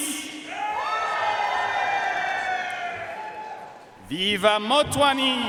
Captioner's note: audience cheering and applauding